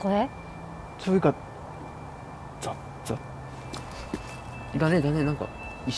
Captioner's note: footsteps